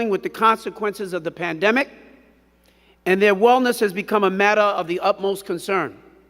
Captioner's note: none